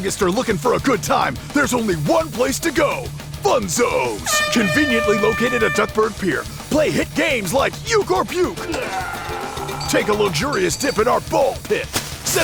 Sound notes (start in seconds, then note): 4.2 airhorn sounds